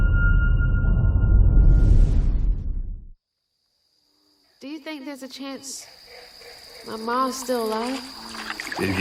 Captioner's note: dramatic sound